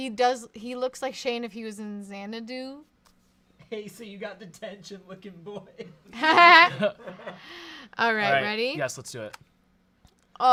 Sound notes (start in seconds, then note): 6.0 laughs